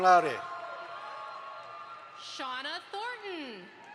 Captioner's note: audience applauds